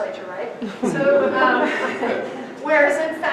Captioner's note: audience laughter